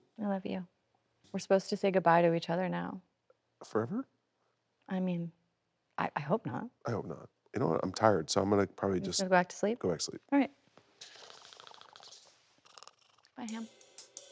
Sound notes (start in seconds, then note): 11.1 Jon snoring